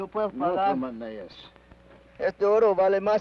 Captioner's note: Ben speaks foreign language